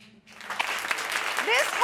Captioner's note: applause